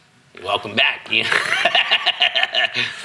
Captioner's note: laughing